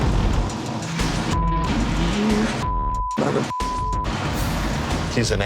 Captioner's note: beep